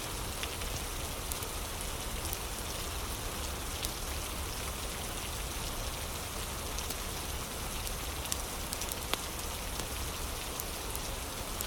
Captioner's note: fire crackling